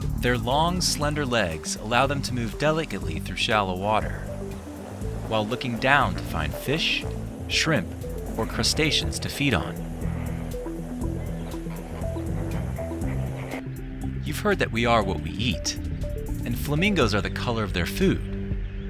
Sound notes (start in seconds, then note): 0.0 birds chirping; 0.0 upbeat music; 10.1 flamingos clucking; 10.1 upbeat music